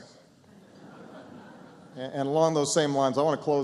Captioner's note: laughter